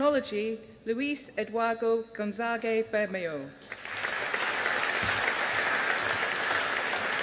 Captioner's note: audience applauding